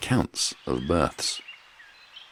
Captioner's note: birds chirping